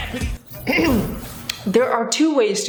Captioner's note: host clearing throat